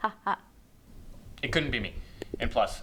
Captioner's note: laughs